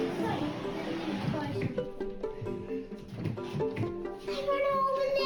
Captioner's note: chair skidding; playful pop music